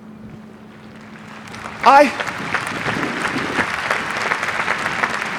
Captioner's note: audience applauding